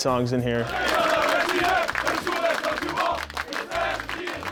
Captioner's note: team chants